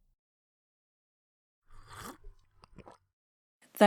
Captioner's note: sipping